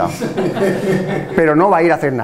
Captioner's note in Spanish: risas